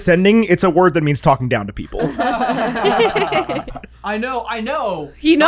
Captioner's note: laughter